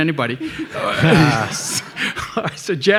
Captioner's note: everybody laughing